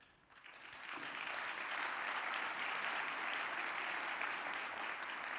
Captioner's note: audience applauding